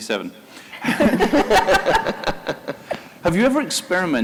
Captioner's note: laughter